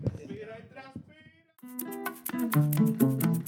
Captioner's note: non-english Speech